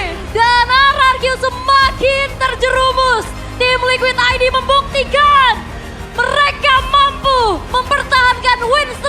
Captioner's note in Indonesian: berteriak